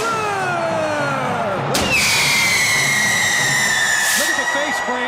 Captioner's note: crowd cheering